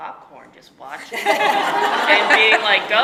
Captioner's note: audience laughing